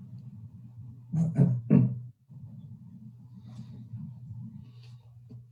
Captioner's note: throat clearing